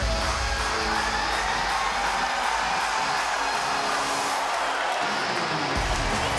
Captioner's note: crowd cheering; upbeat rock music